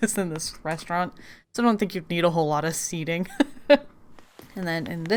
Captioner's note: laughs